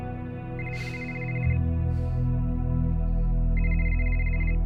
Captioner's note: cell phone ringing